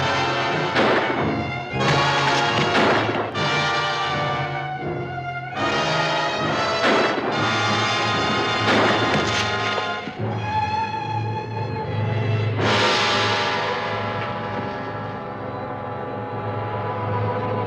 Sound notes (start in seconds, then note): 0.2 guns firing; 6.5 guns firing; 8.6 rock thuds; 14.7 dramatic music